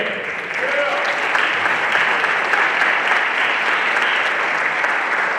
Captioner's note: everyone applauding